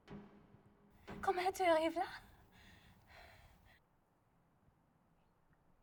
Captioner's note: speaking in foreign language